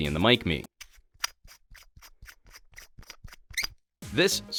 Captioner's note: metal threads scraping